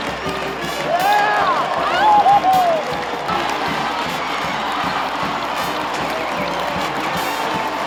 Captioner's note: cheering